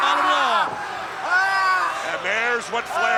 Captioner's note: Ric screaming